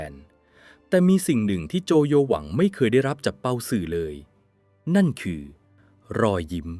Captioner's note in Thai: เสียงสูดหายใจ